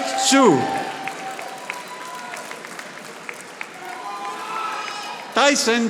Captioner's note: audience applauding